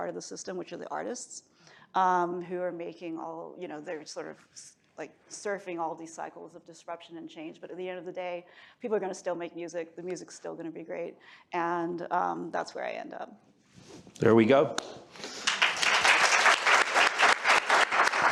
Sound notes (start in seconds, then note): 15.2 applause